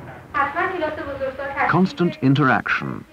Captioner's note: Field worker indiscriminate chatter